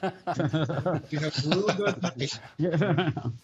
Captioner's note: laughter